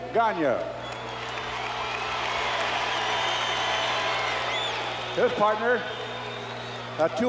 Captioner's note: applause